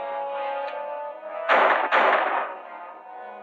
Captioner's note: gunshots